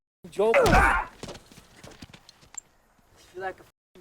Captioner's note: driver grunts